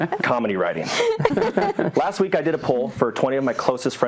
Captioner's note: laugh